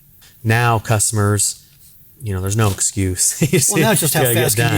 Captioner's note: laughing